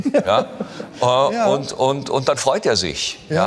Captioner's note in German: Lachen